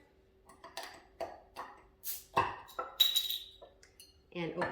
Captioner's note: bottle popping